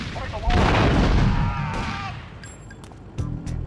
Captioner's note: screaming